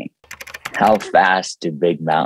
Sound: keyboard clicking

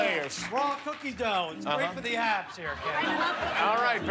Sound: cheers and applause

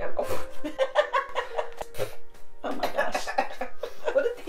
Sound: splutters and coughs

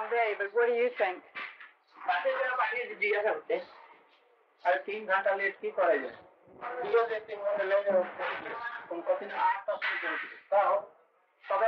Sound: Hindi

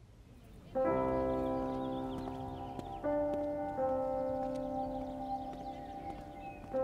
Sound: birds chirping; calm music playing

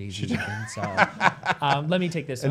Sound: laughs

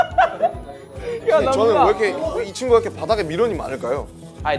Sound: whew

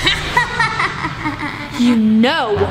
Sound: laughing

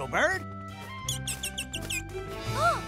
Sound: tweeting

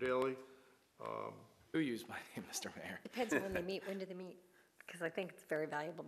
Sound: laughter

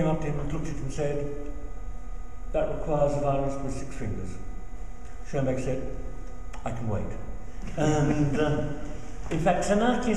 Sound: chuckles

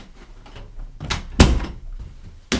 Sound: door closes

